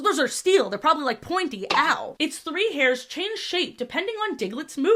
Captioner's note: cartoon pinprick sfx